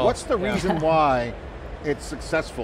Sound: chuckles

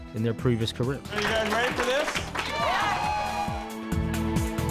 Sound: cheers

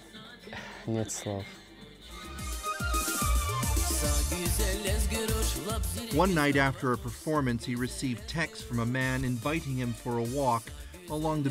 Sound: speaking russian

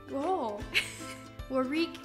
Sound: laughs

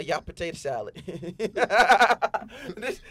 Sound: laughing

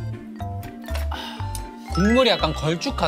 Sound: exhaling

